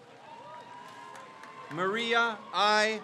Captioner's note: crowd cheers